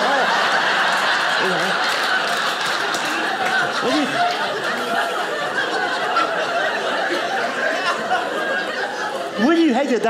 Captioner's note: audience laughing